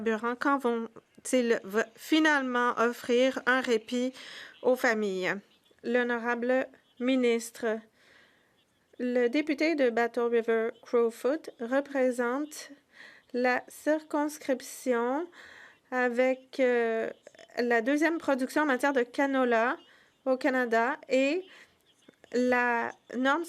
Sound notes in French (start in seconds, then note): 12.2 voix de l'interprète